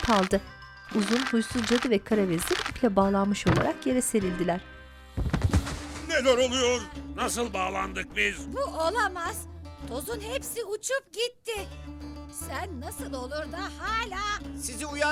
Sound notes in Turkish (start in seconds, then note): 5.2 Oturma sesi; 5.5 Düşme sesleri